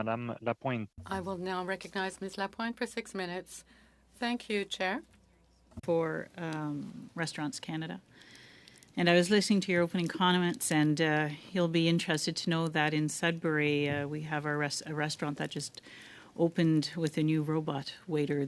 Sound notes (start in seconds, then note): 5.2 speaking French